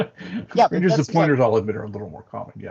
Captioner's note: laughs